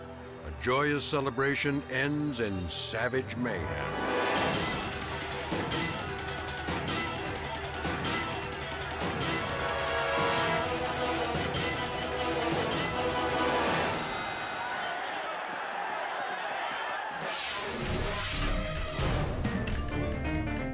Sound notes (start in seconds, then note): 4.6 dramatic music; 4.6 fans screaming; 17.2 dramatic music